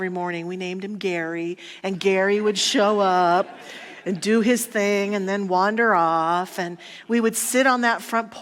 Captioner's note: audience laughter